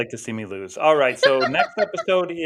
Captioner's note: laughing